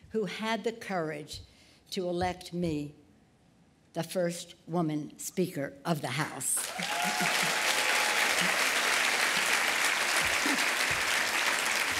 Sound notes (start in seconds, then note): 6.5 applause